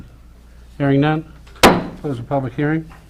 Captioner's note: mayor bangs gavel